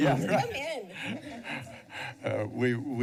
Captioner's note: laughter